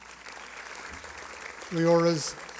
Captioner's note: applause